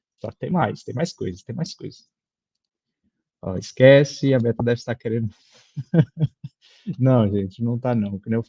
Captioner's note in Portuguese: risada